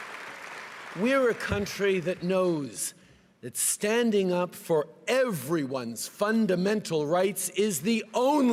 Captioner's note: cheering and applause